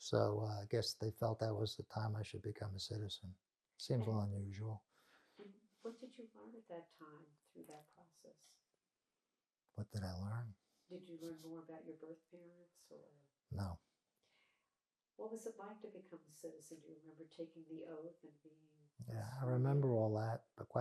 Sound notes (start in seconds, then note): 10.7 laughing